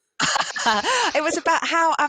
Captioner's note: laughter